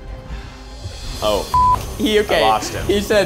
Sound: beep

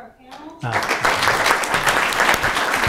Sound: applause

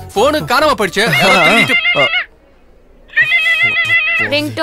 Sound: phone ringing

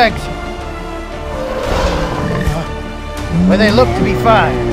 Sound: Ankylosaurus Sounds

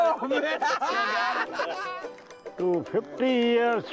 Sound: laughs

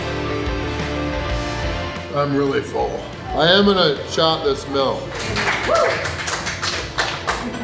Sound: crowd clapping

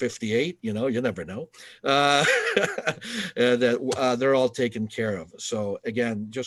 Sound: laughter

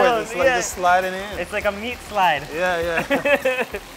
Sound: laughing

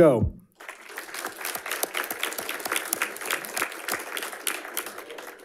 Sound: audience applauding

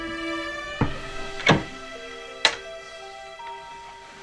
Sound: SFX: Door opening

